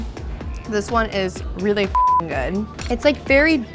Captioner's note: beep